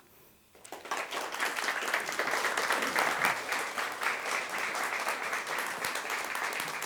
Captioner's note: applause